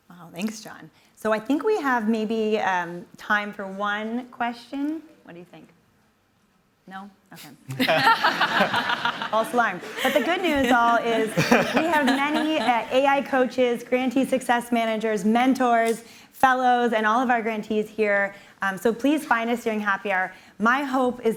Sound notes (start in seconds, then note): 7.7 laughter